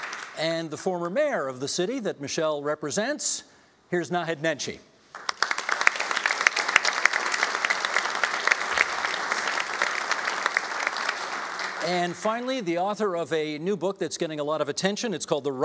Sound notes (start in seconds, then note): 0.0 applauding; 5.1 applauding